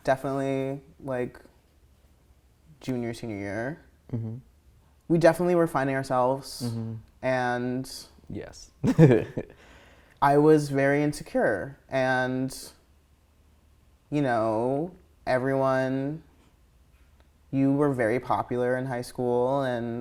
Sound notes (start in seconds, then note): 8.8 laughing